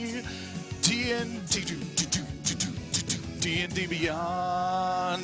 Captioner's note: imitating drum rolls